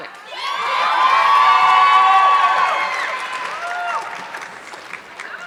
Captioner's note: audience clapping